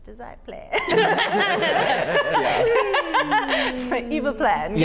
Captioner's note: laugh